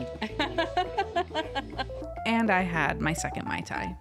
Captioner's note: laughing